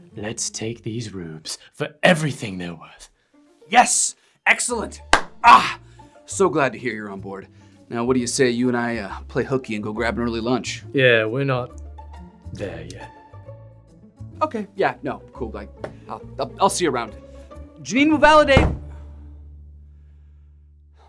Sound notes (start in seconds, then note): 5.1 hands clap; 18.2 money wad knocks; 18.2 door slams